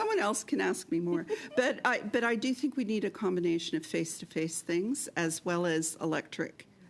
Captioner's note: laughter